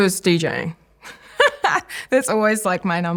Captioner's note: laughs